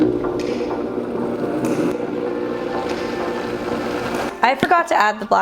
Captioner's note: blender whirring; lighthearted music